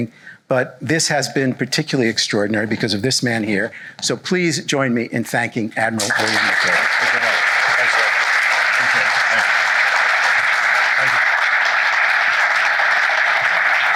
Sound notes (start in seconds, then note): 6.0 applause